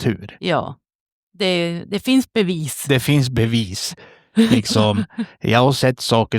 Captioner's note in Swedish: skratt